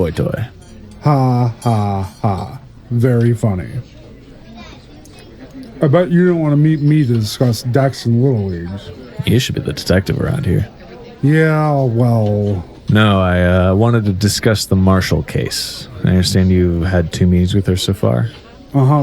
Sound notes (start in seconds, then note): 3.9 chews